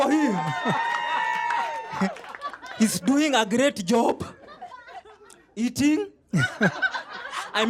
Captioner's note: applause; laughter